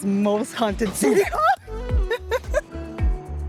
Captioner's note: laughs